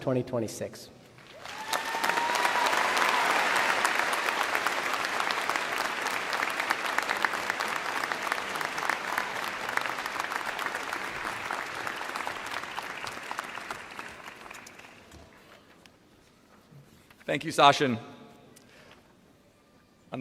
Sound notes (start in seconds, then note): 4.1 applause